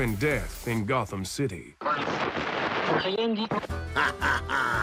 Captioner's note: radio static